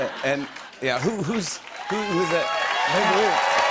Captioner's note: cheers and applause